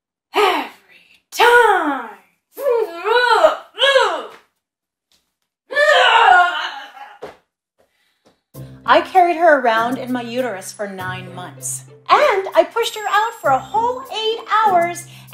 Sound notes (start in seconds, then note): 2.5 groans in annoyance